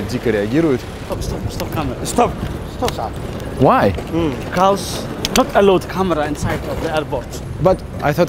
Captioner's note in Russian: говорят на английском